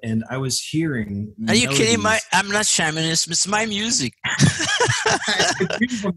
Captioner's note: laugh